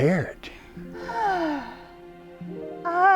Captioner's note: sigh